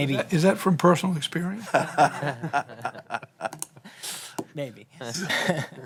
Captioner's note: laughter